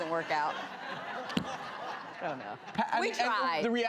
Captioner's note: laughter